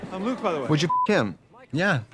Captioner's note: beep